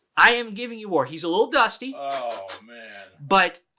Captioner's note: blowing